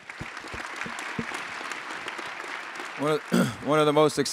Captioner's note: attendees applauding